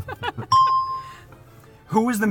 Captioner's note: both laugh; bell rings